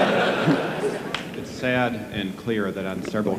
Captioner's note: audience laughing; male Voice